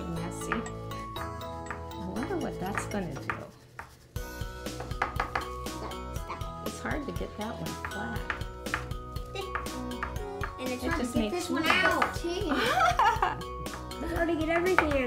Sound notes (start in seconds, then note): 4.7 tap, tap, tap; 9.7 knock; 12.4 laughing